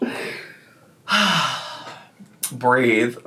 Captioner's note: sighing